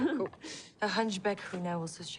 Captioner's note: laughs